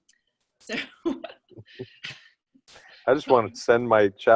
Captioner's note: laughter